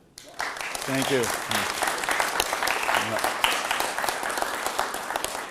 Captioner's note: applause